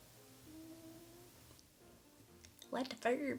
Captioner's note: cat snoring